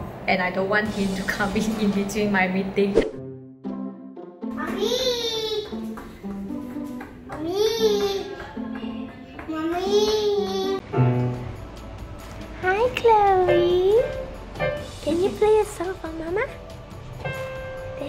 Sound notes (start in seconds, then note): 5.6 knocks on the door; 10.9 plays Piano